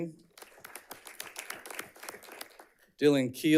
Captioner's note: audience clapping